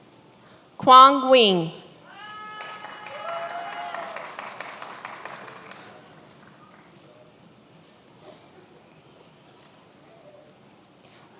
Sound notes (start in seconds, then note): 2.2 many applauding